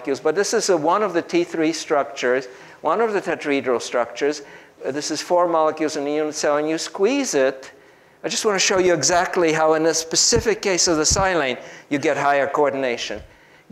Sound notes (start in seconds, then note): none